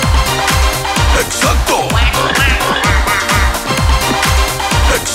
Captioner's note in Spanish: Música alegre; Sonidos de animales; Música alegre